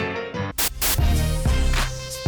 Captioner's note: Static